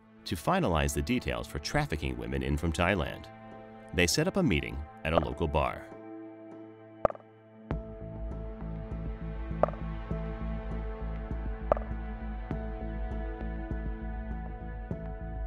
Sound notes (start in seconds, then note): 5.8 suspenseful music; 7.0 messages clicking